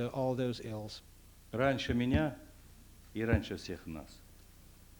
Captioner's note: non-english speech